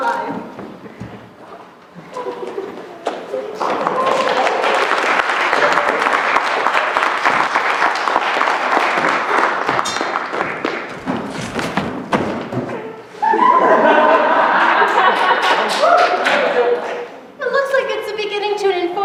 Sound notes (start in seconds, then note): 3.6 applause; 13.2 laughter; 14.8 applause